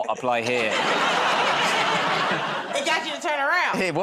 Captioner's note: laughter